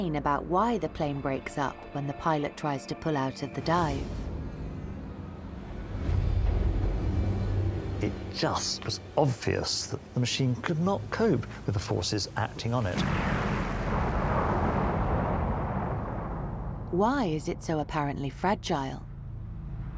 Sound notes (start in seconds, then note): 4.8 tense suspenseful music; 12.7 aeroplane whooshing